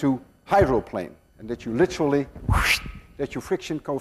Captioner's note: makes whooshing sound